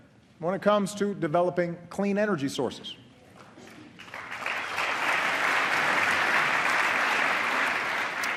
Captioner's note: applause